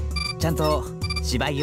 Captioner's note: none